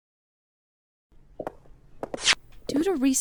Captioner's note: footsteps